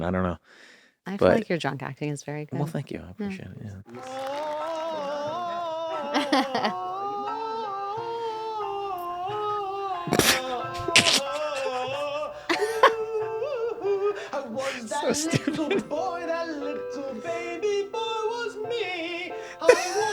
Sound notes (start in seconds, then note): 5.0 vocalizing; 11.7 laughter